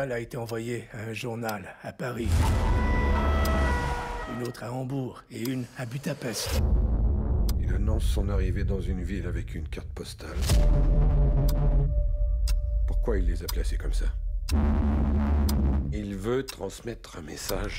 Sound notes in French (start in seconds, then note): 2.4 sirènes de police; 10.3 musique inquiÉtante